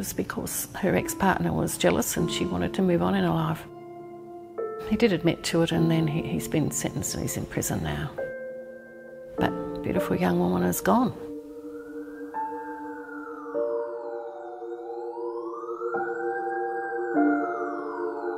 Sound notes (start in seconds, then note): 11.0 siren